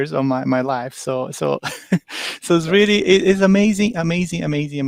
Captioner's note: chuckles